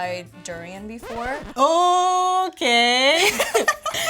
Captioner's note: record scratches; laughs